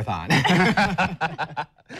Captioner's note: laughs